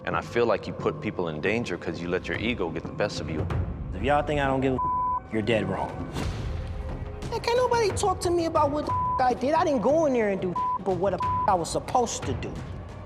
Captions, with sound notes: And I feel like put people in danger 'cause you let your ego get the best of you. If y'all think I don't give a (beep), you're dead wrong. Can't nobody talk to me about what the (beep) I did. I didn't go in there and do (beep) but what the (beep) I was supposed to do.